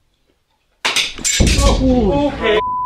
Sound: glass breaking

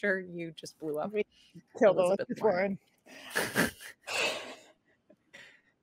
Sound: chuckles

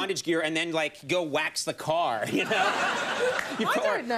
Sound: audience laughs; laughs

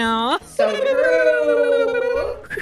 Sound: does lip trills; makes weird whistling sounds

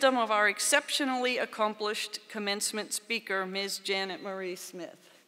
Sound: none

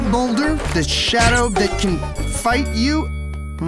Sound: punch, bell

